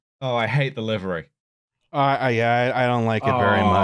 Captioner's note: none